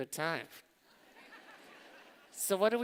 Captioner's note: laughter